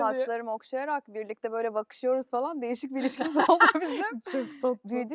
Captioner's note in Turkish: kahkaha